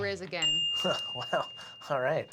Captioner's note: bell dings